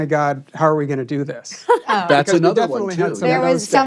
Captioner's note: laughs